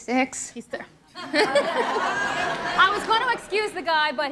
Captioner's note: laughter